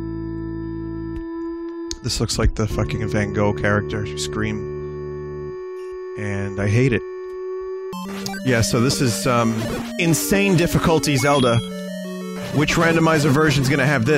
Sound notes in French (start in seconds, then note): none